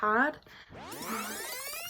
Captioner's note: rewind tape sound